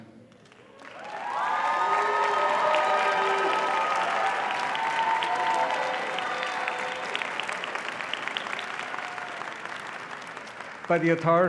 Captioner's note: applause and cheering